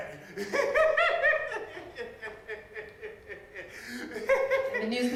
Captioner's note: laughing